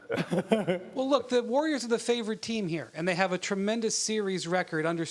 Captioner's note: laughter